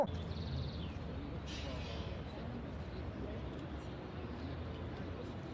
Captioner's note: background birds